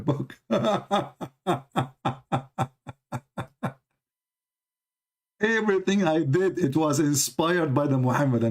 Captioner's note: Ketawa